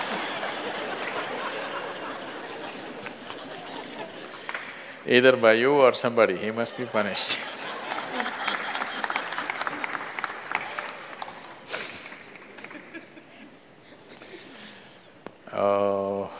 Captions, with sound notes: Either by you or somebody he must be punished. (Laughter and Applause)